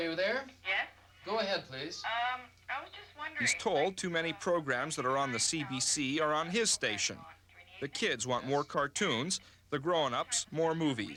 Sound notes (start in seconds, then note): 0.9 on phone